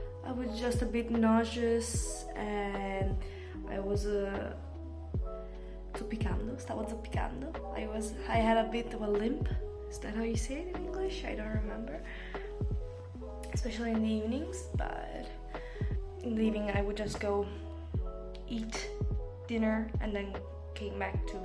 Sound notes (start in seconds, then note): 8.0 in English